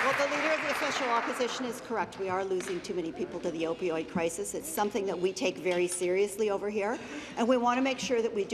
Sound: applause

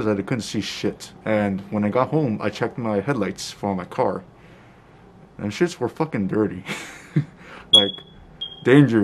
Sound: laughs

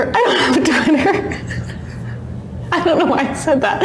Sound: laughs

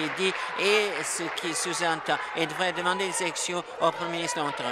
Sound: applause

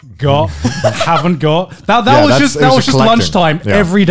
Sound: laughing softly

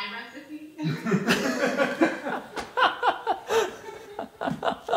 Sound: group laughing

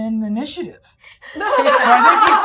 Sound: gamers laughing

